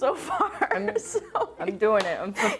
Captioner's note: laughing